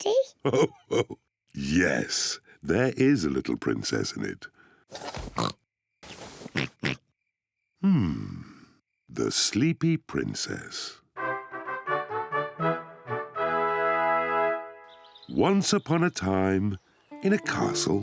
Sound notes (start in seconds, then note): 0.4 chuckles; 5.0 both oink